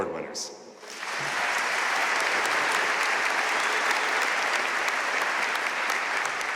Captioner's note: audience cheering and applauding